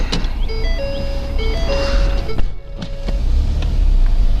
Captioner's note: car chiming